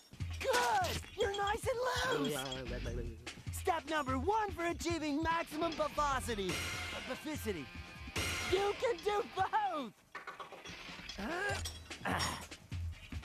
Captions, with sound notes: GOOD. YOU'RE NICE AND LOOSE. [gibbering] STEP NUMBER ONE FOR ACHIEVING MAXIMUM BUFFOSITY-- BUFFICITY, YOU CAN DO BOTH. [Stone Cold grunting]